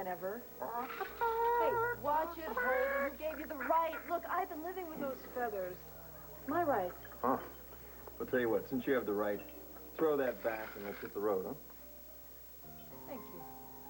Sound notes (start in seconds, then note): 2.4 max clucks